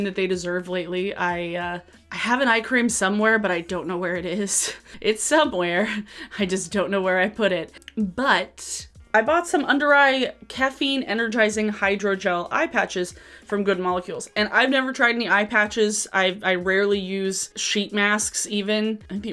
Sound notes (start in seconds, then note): 4.6 chuckles; 5.8 chuckle